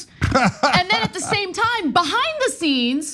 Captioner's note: laugh